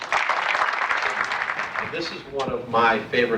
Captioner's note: clapping